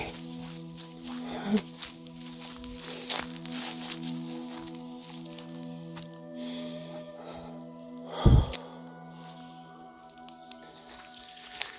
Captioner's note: sobbing